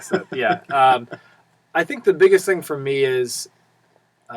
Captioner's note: laugh